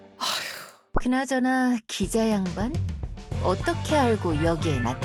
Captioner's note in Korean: 한숨